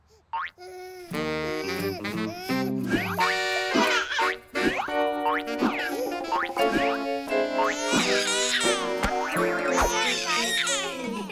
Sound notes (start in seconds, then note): 0.8 laughing; 3.9 crying